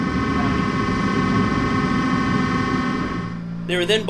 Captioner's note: machine whirring